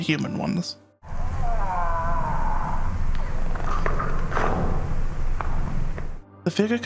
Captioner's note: strained vocalisations and crunching noises